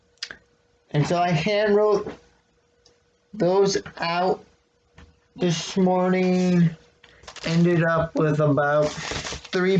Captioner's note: rustling of paper